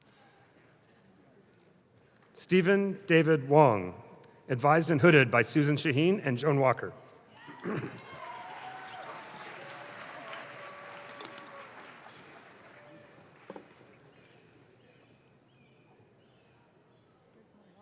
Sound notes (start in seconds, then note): 7.9 audience claps